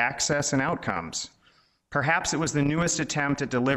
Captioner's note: none